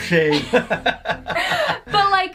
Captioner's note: both laughing